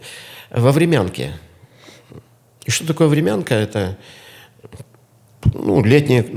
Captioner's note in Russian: фыркает